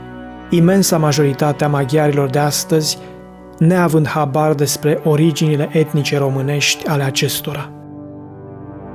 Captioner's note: Hungarian